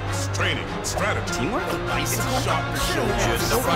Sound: overlapping chatter

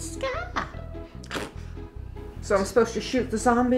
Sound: laughing

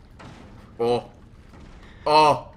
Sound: slam

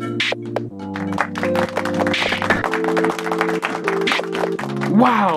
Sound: applause

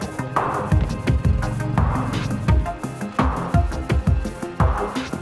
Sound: boat engine rumbling

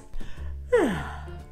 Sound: yawn

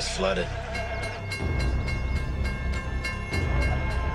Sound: railway Crossing rings

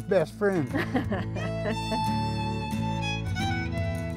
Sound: laughing

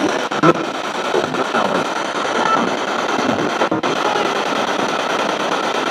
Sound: disembodied Voice

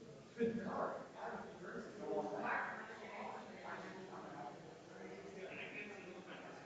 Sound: people chattering distantly continues

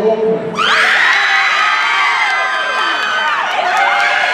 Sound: audience cheering

